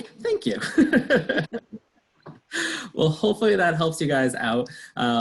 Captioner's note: laughs